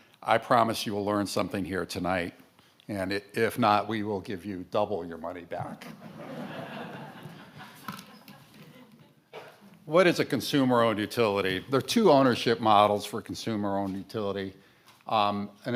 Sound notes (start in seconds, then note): 5.9 audience laughs